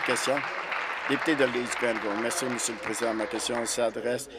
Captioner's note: applause